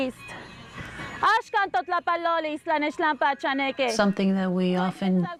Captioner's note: speaks in foreign language